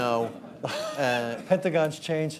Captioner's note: laughter